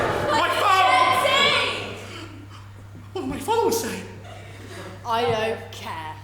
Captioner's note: audience gasp